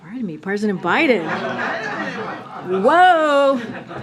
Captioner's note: laughter